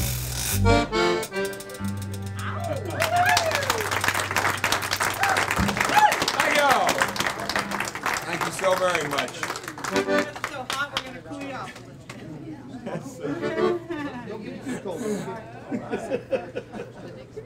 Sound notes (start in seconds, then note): 2.5 audience applauds; 12.8 laughing